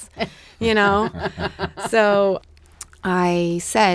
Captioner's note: laughing